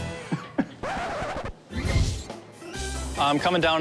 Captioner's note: record scratches